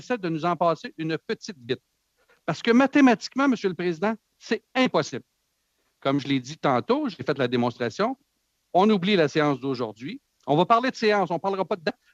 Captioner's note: speaking French